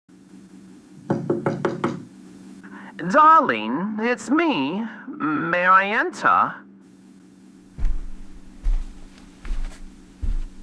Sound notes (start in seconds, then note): 1.0 knock on door fx